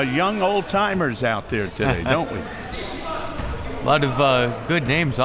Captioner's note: chuckles